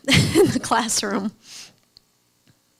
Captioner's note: laughs